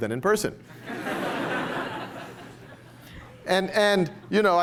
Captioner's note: laughter